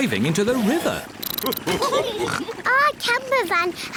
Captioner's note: all laugh